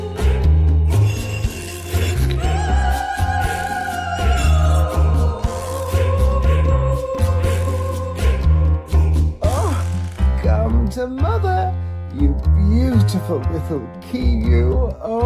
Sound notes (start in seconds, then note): 1.9 stone sliding